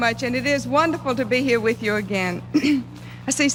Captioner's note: cough